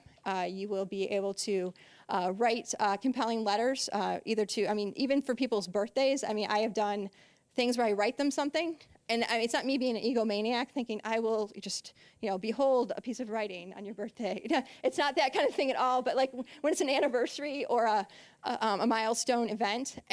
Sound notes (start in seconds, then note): 14.3 laughing